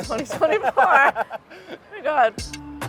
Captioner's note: laughs